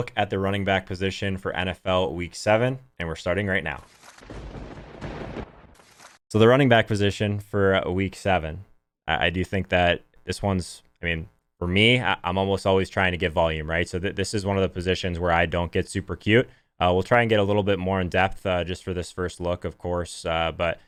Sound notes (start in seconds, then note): 3.9 lightning cracking